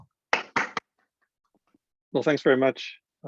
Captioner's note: claps